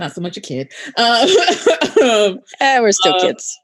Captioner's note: laughing